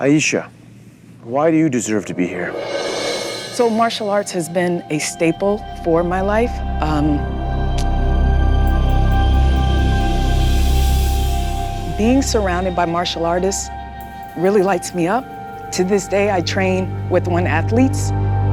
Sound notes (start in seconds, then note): none